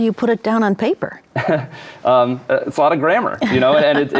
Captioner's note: chuckles